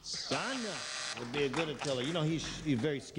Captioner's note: buzzer